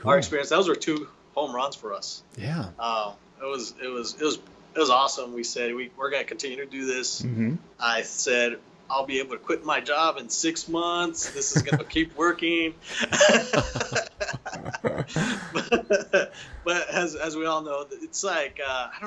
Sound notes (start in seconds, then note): 12.8 both laughing